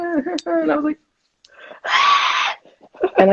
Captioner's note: screaming